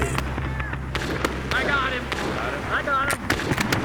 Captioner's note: gunshots